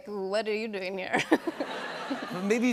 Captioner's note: laughter